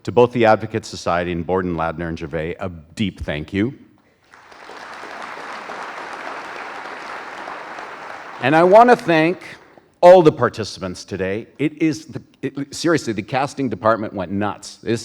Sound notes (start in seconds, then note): 4.3 audience applauding